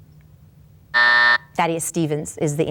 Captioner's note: timer buzzes